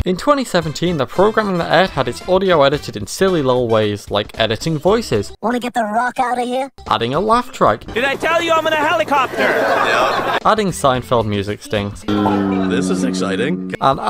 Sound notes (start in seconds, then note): 7.8 laugh Track; 12.0 music sting